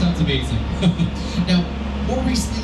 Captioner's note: lauging